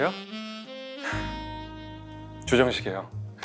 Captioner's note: sighs